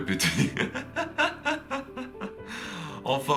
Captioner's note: laughs